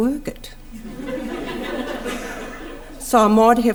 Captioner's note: audience laughter can be heard